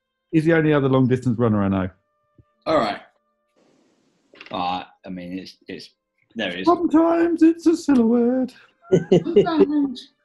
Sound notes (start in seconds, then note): 6.2 high pitched; 8.9 chuckling